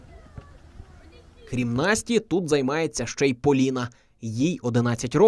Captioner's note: voiceover